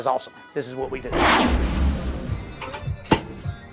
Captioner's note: whoosh